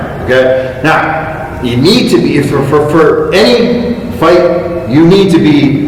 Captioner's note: stutter